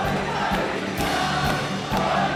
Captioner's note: Applauso